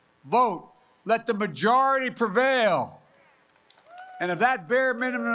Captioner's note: applause